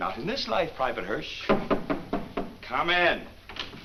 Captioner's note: knock on door